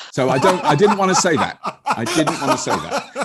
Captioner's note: laughing